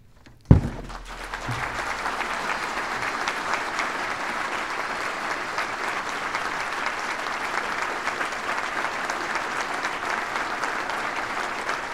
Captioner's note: applause